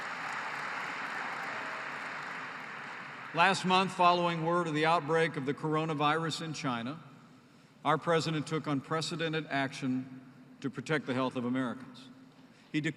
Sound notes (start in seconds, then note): 2.5 applause